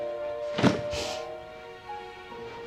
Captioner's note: slamming